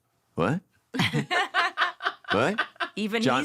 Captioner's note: laughter